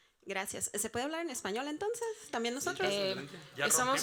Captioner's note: audience member speaking Spanish; moderator speaking Spanish